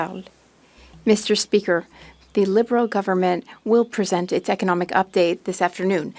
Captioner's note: speaking French